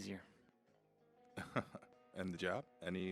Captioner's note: Dan laughs